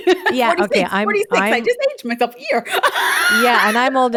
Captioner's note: laughing